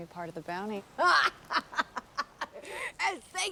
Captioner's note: Mackenzie laughing